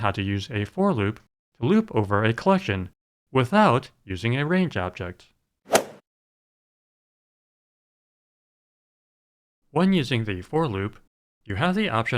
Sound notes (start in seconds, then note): 5.7 swoosh